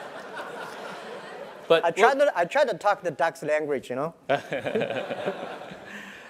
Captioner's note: laugh